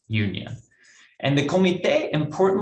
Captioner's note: speaks in foreign language